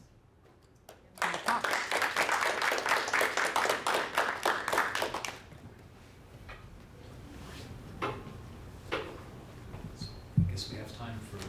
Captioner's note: applause